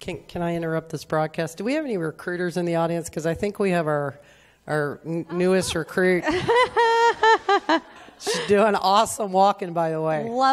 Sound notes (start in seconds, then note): 5.4 all laughing